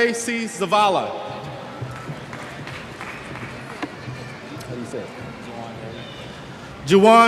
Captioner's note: cheers